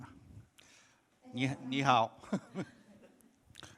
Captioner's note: “Hello” in Chinese